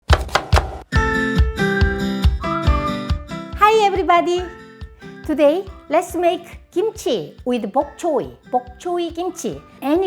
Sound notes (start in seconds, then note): 0.0 knife thumping; 0.9 cheerful music